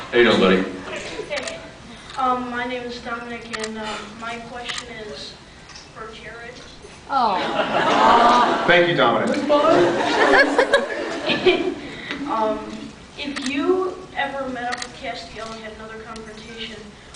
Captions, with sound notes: How ya doing buddy? Hey. Um my name is Dominic and um... my question is for Jared. Thank you Dominic. [some laughs, some awwws] It’s fine, it’s fine. [scattered laughs] [laughs] Um... if you ever met up with Castiel and had another confrontation,